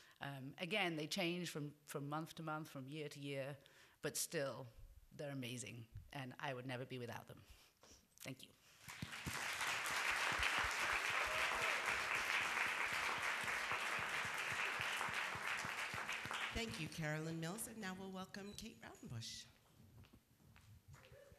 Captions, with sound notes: Again, they change from month to month, from year to year, but still, they’re amazing, and I would never be without them. Thank you. [Applause] Thank you, Caroline Mills. And now we’ll welcome Kate Raudenbush.